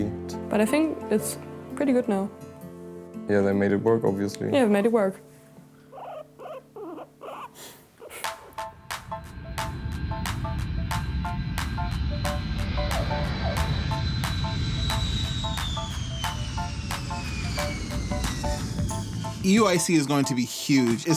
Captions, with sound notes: But I think it's pretty good now. Yeah, they made it work, obviously. Made it work. [guinea pig squeaking] [jet engine roaring] [upbeat music] EUIC is going to be huge.